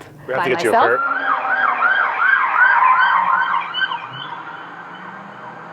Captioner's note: emergency vehicle siren wailing